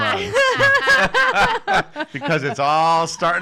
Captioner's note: laughing